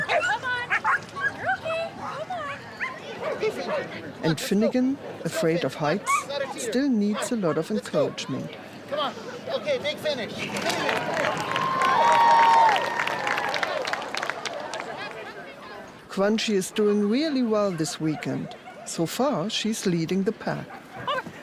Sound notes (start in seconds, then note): 2.7 dogs barking; 10.4 crowd applauds and cheers